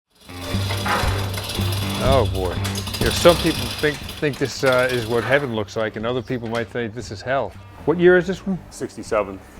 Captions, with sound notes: (engine starting) - Oh boy. Some people think this is what heaven looks like and other people might think this is hell. What year is this one?